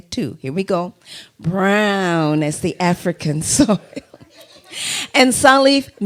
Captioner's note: laughter